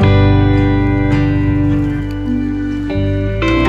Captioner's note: milkweed pods blowing in the wind